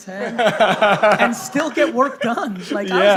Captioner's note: laughing